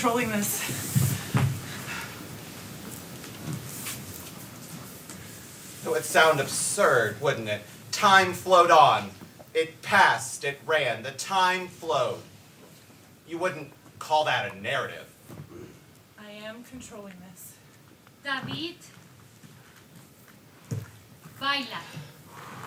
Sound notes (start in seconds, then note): 4.3 dancers' bodies scrap